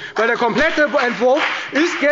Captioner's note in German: Beifall bei der FDP